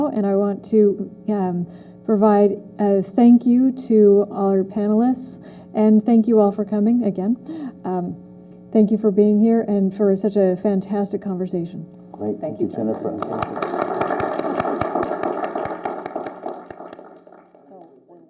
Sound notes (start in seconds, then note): 12.5 applause